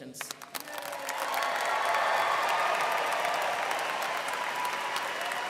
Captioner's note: students cheering and applauding